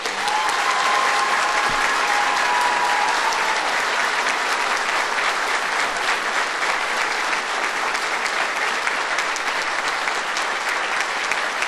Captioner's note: applause